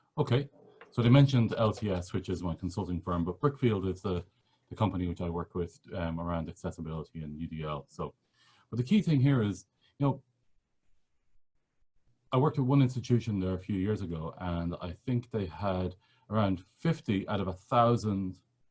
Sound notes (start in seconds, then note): none